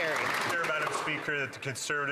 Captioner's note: applause